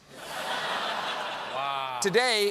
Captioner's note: laughter